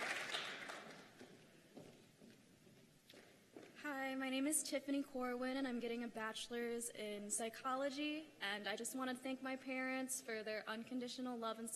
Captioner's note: cheers and applause